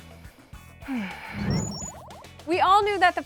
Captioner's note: sighs